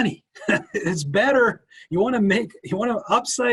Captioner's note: chuckles